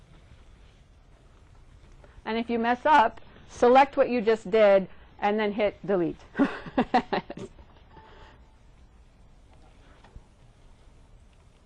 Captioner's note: laughs